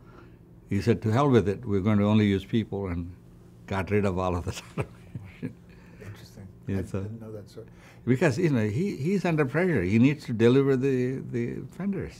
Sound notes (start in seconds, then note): 4.5 laughs